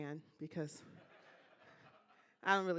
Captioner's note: laughing